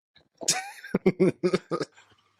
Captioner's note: laughter